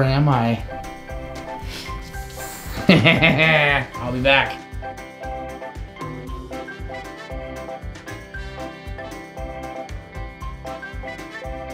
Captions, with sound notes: Or am I? (laughs) I'll be back. (playful music)